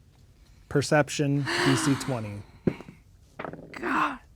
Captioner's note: sighs; dice rolling